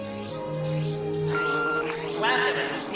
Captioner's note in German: Fliegen summt und Signaltöne dröhnen durch Telefon; Piep